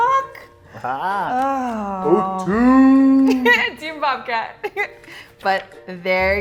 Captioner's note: laughs